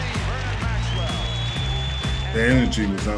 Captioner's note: crowd cheering